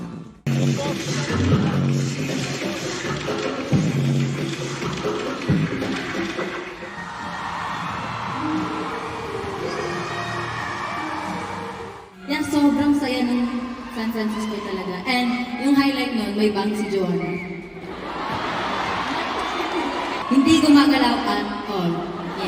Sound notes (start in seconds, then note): 17.7 crowd laughing